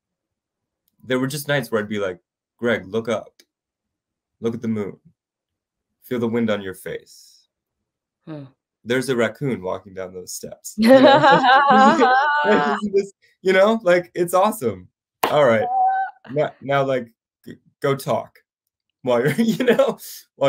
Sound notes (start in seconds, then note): 10.8 they laugh